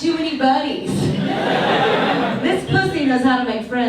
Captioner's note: audience laughs